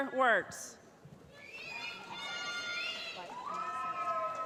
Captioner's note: cheering